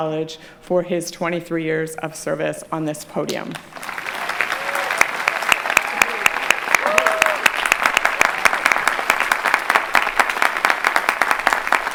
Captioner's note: clapping